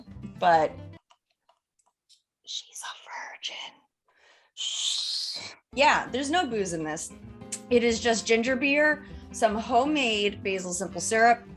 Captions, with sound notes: But... (whispers) She's a virgin. Shhhh. Yeah, there's no booze in this. It is just ginger beer, some homemade basil simple syrup,